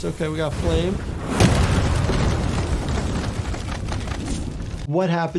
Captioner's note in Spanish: explosión en auge